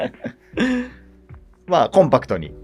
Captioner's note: laughing